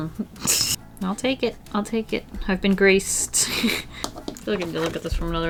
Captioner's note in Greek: Γέλια